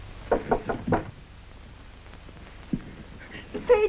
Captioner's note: door knocks